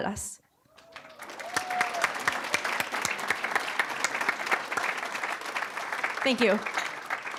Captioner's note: applause